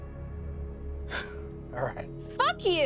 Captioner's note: laughs